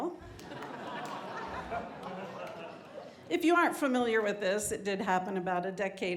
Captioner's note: laughter